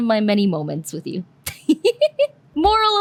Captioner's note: teeHee!